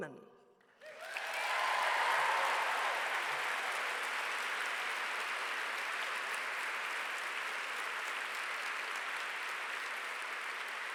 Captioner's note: applause